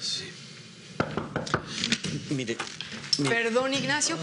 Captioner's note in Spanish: llaman a la puerta